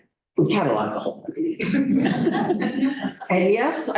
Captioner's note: laughter